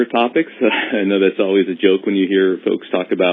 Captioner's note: laughs